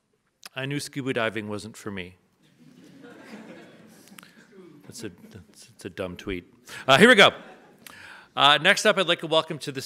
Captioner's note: audience laughs